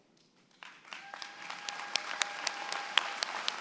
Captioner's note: applause